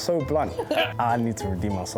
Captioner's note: laughing